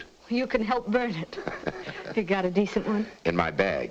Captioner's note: Joe laughs